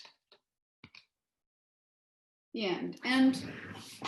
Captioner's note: silence